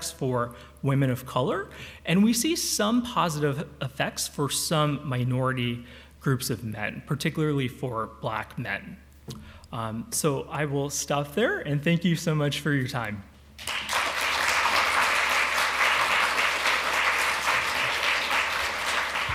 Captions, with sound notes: for women of color, and we see some positive effects for some minority groups of men, particularly for Black men. So I will stop there. And thank you so much for your time. [APPLAUSE]